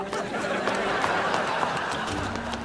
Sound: laughing

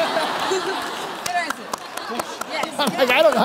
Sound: laughter

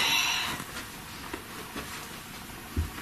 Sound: whispered Voice

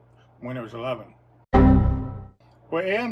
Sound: error beep sound

